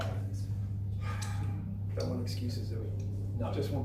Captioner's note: sighing